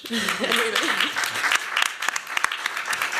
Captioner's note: applause